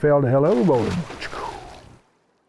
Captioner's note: splashing